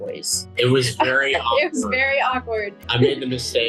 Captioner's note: laughs